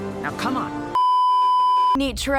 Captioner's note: beeeeeeeeeeeep